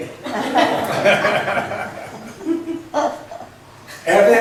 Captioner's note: laughs